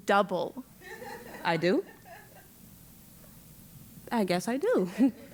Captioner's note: laugh